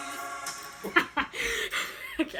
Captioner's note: laughs